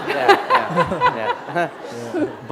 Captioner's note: laughter